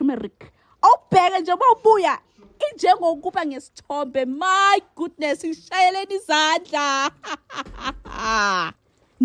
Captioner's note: laughs